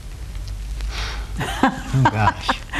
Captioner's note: chuckles